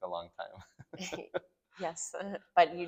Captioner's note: laugh